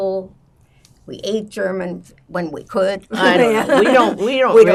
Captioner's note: laughing